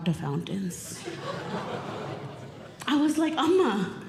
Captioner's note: audience Laughing